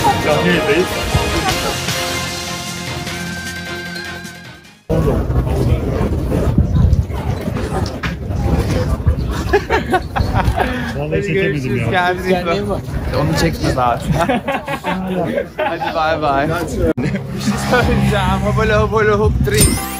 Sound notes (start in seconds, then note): 9.2 laughter; 15.2 laughs